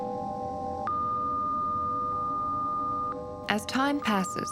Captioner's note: electronic beeping